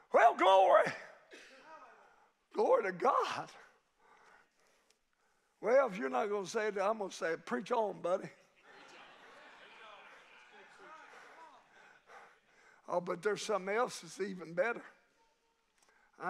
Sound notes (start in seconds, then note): 8.1 congregation laughing